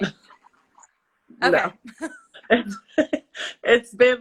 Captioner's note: laughs